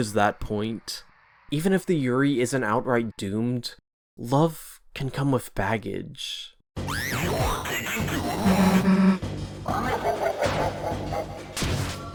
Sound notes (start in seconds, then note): 9.6 jack-o'-lantern laugh SFX